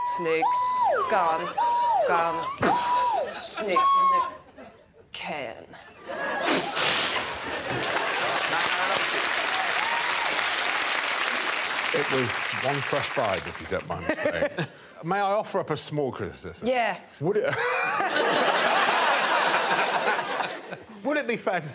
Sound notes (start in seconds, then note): 6.5 imitates explosion; 7.5 audience laughing; 9.2 audience applauding; 20.0 laughs; 20.8 all laughing